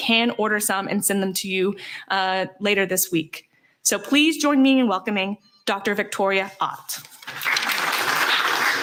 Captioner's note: applause